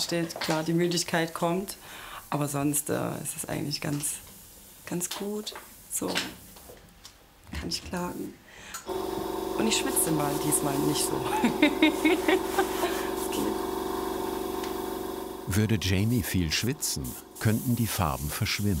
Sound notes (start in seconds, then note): 11.1 she laughs